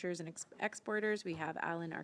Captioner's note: speaking French